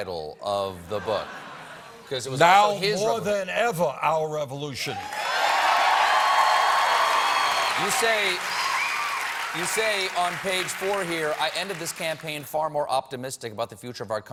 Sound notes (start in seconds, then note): 4.9 cheers and applause